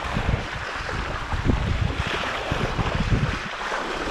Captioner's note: water splashing